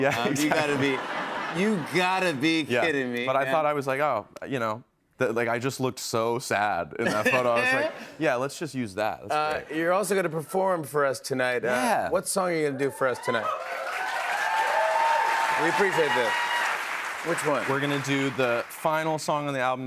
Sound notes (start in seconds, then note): 12.8 cheers and applause